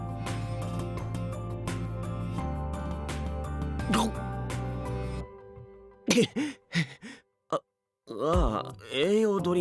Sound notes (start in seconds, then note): 6.0 cough